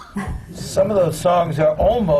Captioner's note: laughs